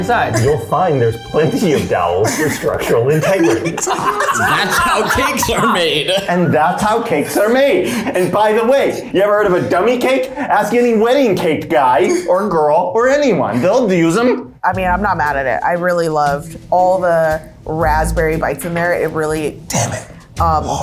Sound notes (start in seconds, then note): 3.7 laugh